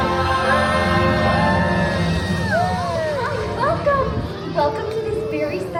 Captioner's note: crowd cheering